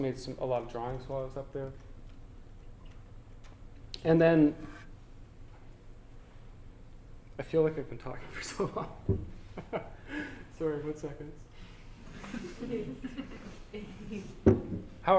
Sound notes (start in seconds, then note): 9.4 laughter; 9.6 audience: Laughter